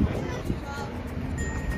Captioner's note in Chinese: 小朋友場邊音